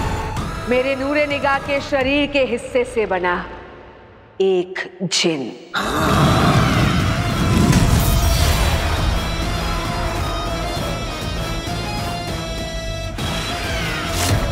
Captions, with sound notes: He is a gin made from a body part of Light of my eyes. [screams]